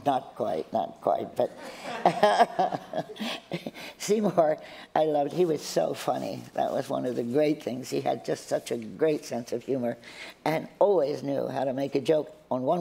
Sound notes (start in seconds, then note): 4.3 laughter